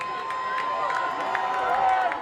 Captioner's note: cheering